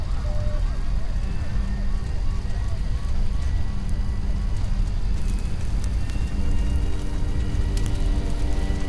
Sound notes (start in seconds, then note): 2.4 ominous music; 2.4 siren blaring